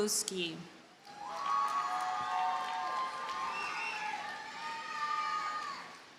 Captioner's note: audience cheers and applauds